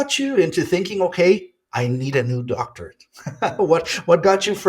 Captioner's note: chuckles